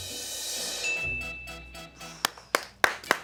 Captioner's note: drum roll hisses; bell chimes; crew cheers and applauds